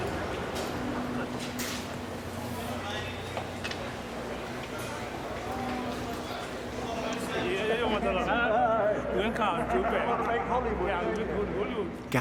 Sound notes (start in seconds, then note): 2.9 distant chattering; 7.4 people speaking in a foreign language